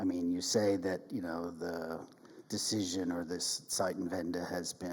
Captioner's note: speaks in German